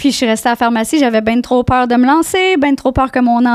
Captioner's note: in french